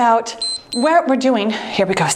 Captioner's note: timer beeps